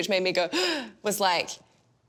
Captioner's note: gasps